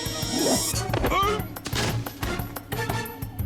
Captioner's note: grunting